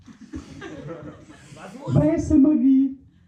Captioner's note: laughter